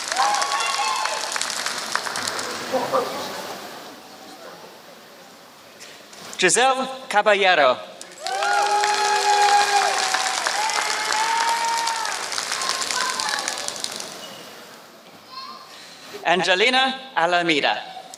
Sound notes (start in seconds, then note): 3.1 applause; 8.0 applause